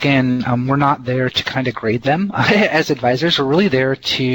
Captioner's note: heh heh